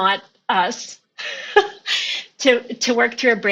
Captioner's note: laughing